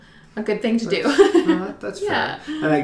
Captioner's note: laughs